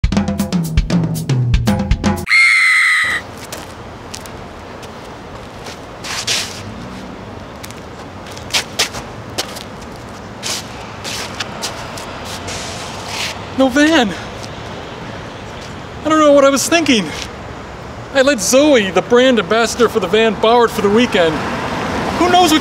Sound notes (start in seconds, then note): 0.0 bongo music; 2.2 female scream